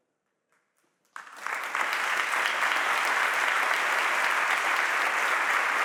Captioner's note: audience applauding